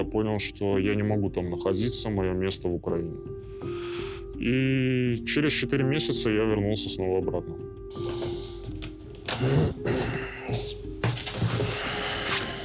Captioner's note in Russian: откашливается